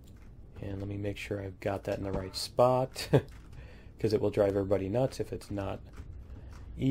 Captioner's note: laughs